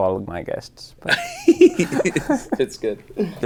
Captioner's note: Destin laughing